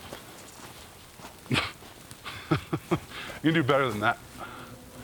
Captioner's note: James laughs